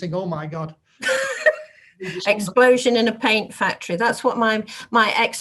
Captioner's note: laughs